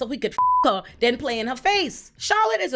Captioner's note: beep